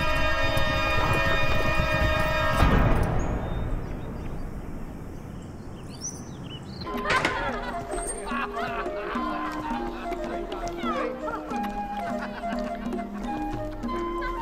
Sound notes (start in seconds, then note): 3.4 birds chirping; 6.9 door opens; 8.6 people laughing; 11.0 lighthearted flute music